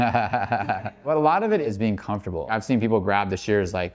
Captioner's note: laughs